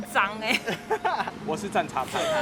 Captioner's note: laughing